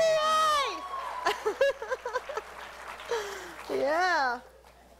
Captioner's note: laughs